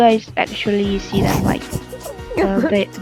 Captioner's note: giggles